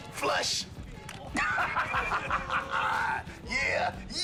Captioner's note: laughs